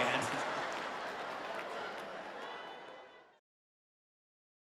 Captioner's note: audience laughs